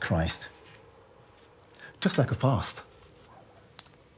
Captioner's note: dog barking